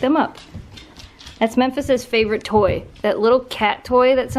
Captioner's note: dog nail sounds